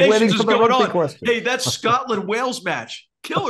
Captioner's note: laugh